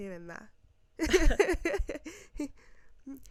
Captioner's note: giggles